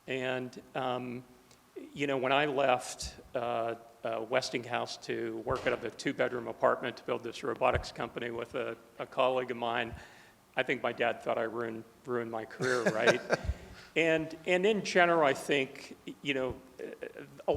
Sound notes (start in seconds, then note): 12.6 laughing